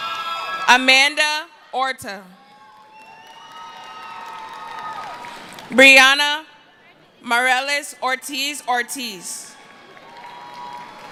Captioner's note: cheering; screaming; cheering